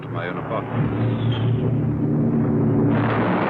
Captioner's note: aircraft engines nearby; explosion